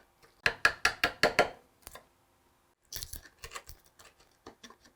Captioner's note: hammer tapping